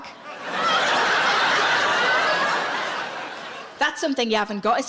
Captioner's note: audience laughs